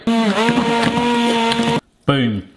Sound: blender whirring

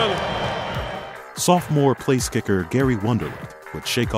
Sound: voiceover

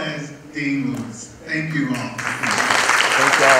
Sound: applause

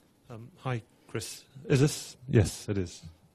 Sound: voiceover

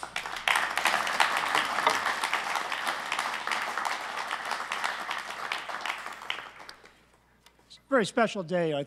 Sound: applause

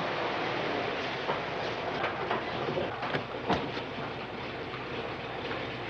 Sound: car engine humming

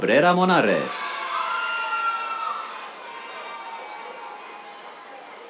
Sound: cheers

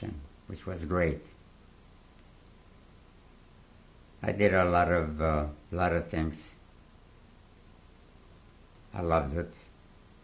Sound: pauses for 3 seconds

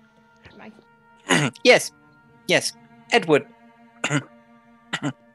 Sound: clears throat; clears throat again

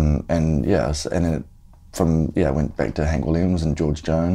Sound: none

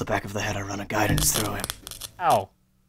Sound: small electric sounds

